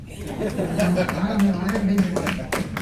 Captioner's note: laughs